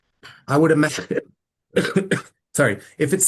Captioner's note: coughs